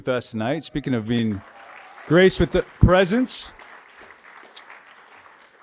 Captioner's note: applause